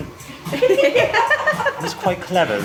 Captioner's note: everybody laughing